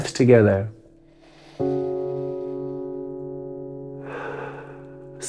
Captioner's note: loudly breathing